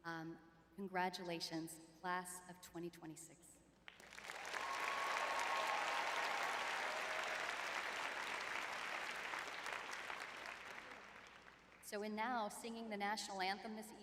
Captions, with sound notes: Um, congratulations, class of 2026. [audience cheering] [audience applauding] So and now, singing the national anthem this